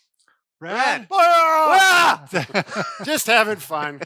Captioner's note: yell